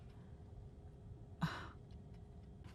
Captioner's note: gasp